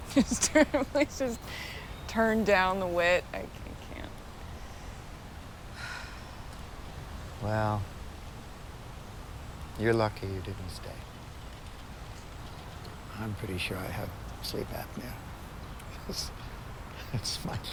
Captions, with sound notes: (chuckles) Just please just turn down the wit? I can't. (Laura sighs) - Well... You're lucky you didn't stay. I'm pretty sure I have sleep apnea. (chuckles) That's my guess.